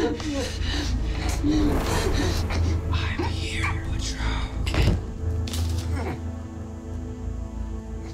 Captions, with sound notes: - [Demonic Voice] I'm here, Butcher.